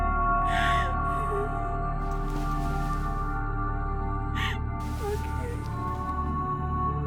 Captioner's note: weeping; ominous music